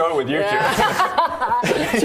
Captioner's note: proud laughter